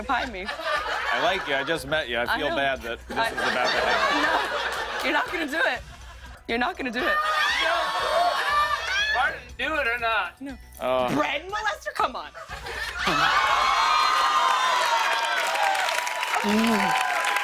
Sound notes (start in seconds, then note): 2.9 laughter; 7.1 screaming; 12.7 laughter, cheers, applause